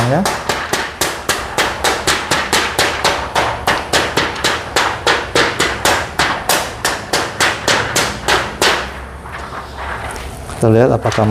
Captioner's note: PET film noise